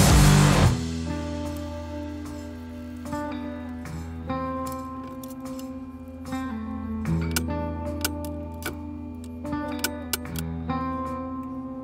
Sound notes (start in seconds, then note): 7.5 tools clicking